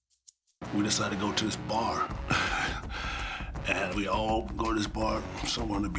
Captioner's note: laugh